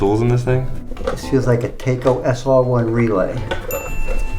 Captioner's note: ding